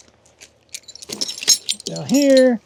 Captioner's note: metal clanking